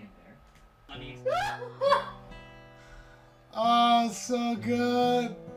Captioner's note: laughs